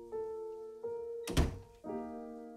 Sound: door closing

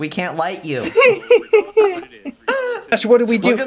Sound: laughing in the darkness of the crowd

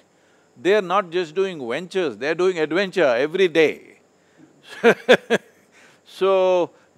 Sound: laughs

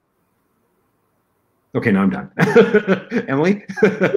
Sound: laughter

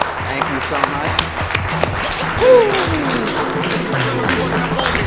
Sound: audience clapping

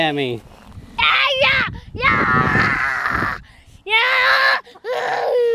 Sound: screams and grunts

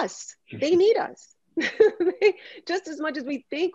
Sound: laughs

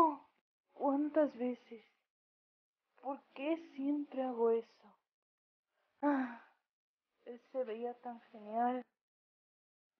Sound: sigh

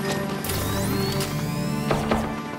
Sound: electronic charge-up; gun shooting

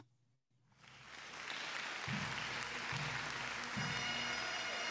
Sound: audience cheers and applauds; jubilant bagpipe music

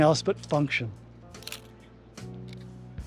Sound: shutter clicks

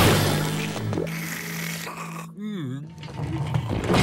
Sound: snoring

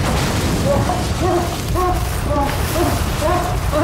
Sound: thunder crashing; Dave whimpering

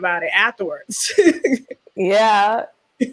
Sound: laughs

